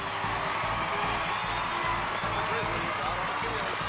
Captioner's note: marching band playing; crowd cheering